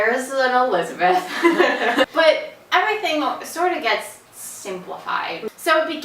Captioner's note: both laugh